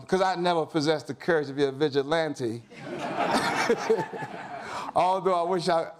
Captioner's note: audience laughs